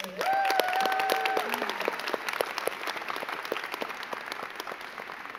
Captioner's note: crowd cheering and clapping